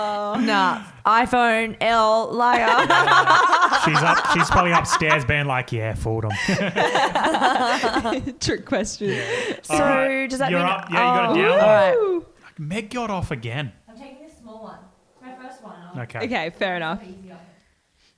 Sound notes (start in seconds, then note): 2.5 all laugh; 7.6 laughs